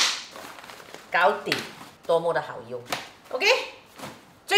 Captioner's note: Cantonese